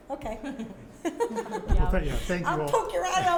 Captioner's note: panel laugh